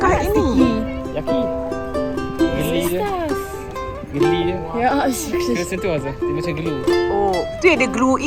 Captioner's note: speaking German